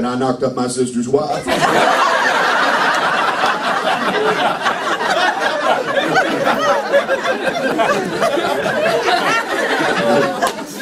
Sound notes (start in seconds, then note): 2.1 laughter